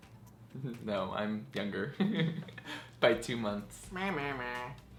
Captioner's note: giggles